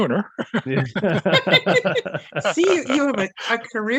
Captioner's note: all laugh